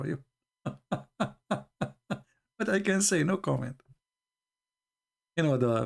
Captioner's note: Ketawa